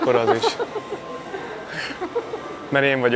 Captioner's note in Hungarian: nevetés